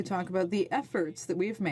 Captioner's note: speaking French